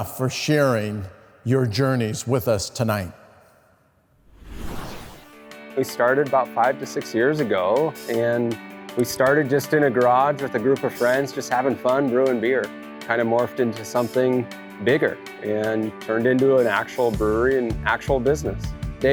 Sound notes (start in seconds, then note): 4.2 whooshing sound effect